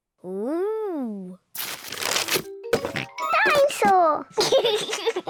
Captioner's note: oinks; laughs